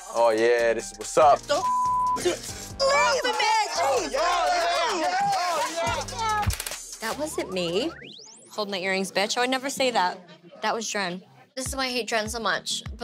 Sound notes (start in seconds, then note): 2.8 screaming and yelling